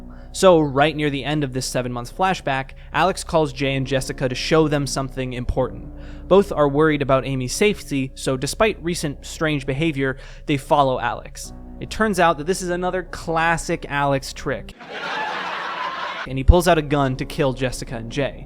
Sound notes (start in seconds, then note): 14.7 stock laughter